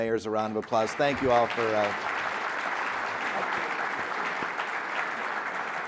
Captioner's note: people applauding